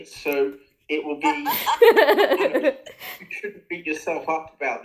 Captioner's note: laughter